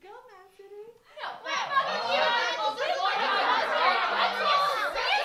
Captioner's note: angry commotion 🤬